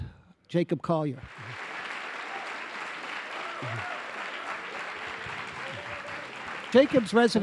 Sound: applause

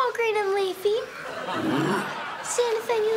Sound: grunting

